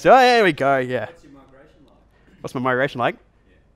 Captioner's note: voiceover